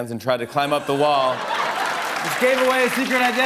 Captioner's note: laughter